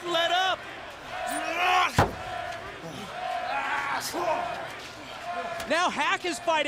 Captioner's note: crowd cheering